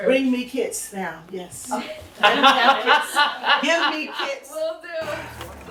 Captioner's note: laughs